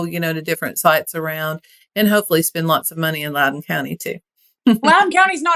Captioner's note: laugh